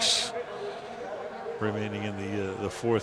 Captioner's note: pa announcement